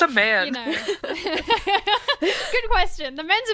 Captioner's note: hosts laugh